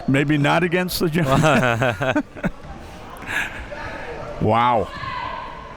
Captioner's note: laughing